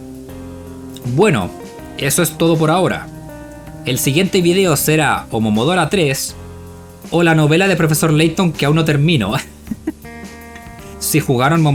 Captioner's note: laughs